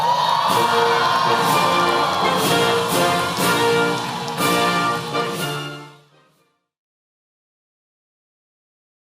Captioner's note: applause